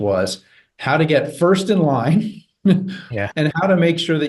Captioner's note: chuckles